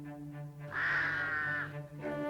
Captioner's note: cawing